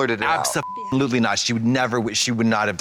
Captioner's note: beep